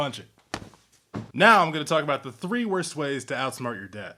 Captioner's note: punch